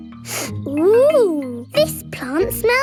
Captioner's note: sniffs